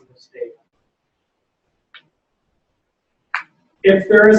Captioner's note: pause